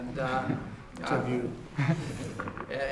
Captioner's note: laughter